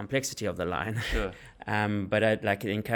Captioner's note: laugh